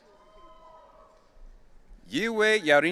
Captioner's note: audience cheering